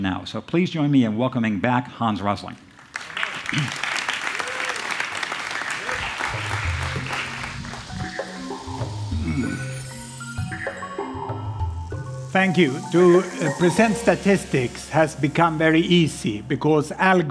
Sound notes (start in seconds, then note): 2.8 applause